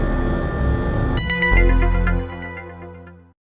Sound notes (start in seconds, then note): 0.0 mystery accent sound effect plays